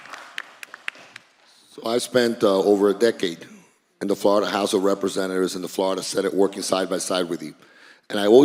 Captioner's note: applause